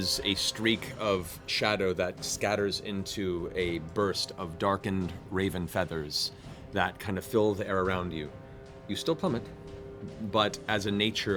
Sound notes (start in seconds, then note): none